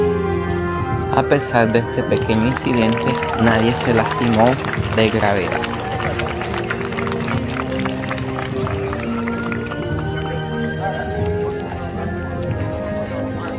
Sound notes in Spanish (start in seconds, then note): 10.1 aplausos